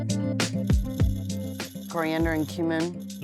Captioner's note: ingredients rattling